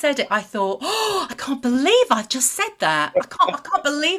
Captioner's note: gasps